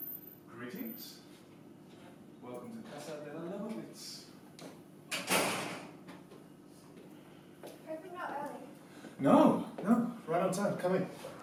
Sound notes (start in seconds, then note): 5.1 door closing